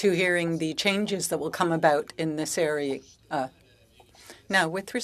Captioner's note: speaking French